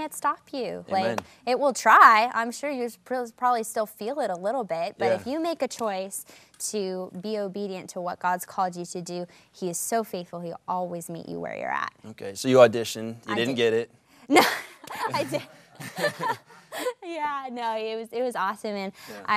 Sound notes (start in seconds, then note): 14.4 laughs